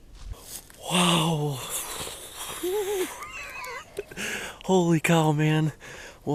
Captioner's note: laughs